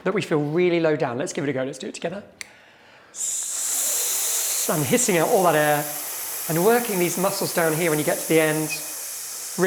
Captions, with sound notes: that we feel really low down. Let's give it a go. Let's do it together. (students hissing) And hissing out all that air and working these muscles down here when you get to the end,